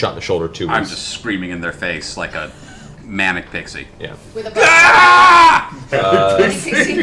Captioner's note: screams